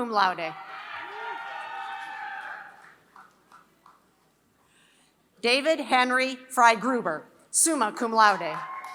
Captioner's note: applause; applause